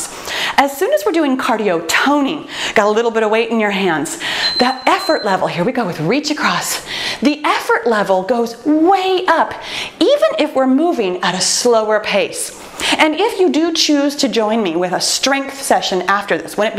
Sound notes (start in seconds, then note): 4.2 timer beeps